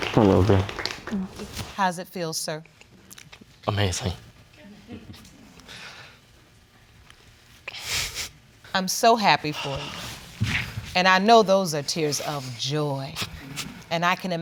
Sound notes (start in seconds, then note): 4.1 voice breaking; 7.8 sobbing